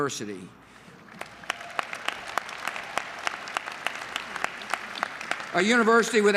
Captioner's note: applause